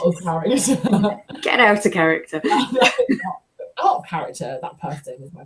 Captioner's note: laughter